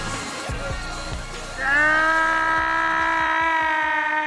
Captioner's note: yells